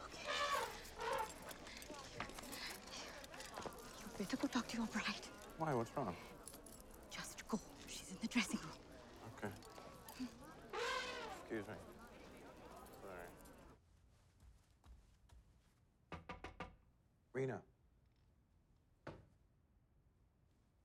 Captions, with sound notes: - Okay. (elephant trumpeting) You better go talk to your bride. - Why? What's wrong? - Just go, she's in the dressing room. - Okay. (elephant trumpeting) Excuse me. Sorry. (knocking) Reena.